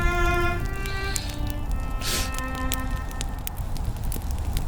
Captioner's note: inhales sharply